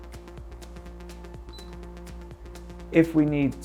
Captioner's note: screen beeps